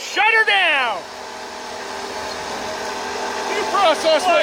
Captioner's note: machines whirring